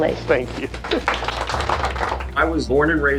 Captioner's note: applause